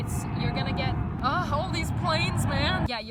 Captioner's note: plane noise